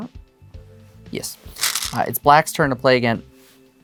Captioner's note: stones rattling